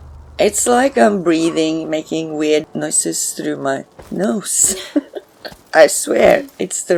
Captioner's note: laughs